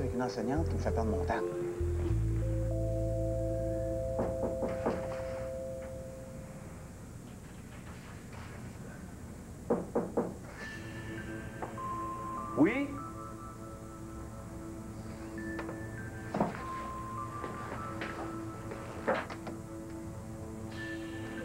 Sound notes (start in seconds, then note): 4.1 On frappe à la porte; 9.6 On frappe à la porte